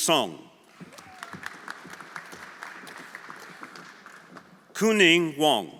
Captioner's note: everyone applauding